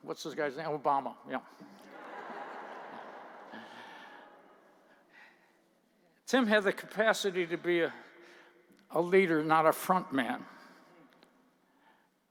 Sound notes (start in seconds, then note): 1.8 laughter